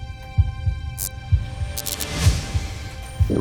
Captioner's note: projector turns on